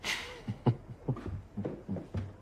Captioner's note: chuckles